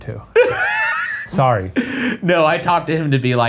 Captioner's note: Ryan laughs